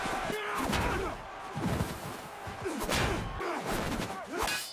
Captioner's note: crowd cheering